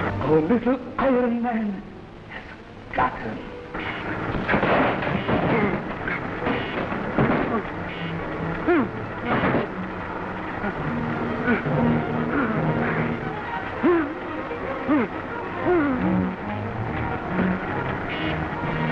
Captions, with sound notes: - Our little iron man has got him! (table clattering) (iron man beeping and whirring) (Captain West groaning)